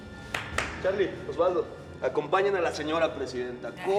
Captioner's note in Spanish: palmadas